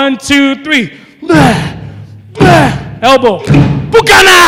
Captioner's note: grunting